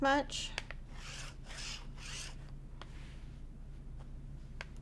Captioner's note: nib scratching